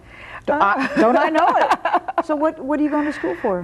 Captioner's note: laughing